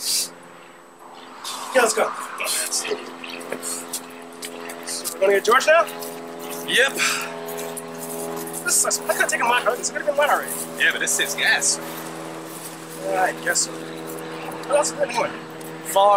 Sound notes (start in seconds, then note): 3.5 sighing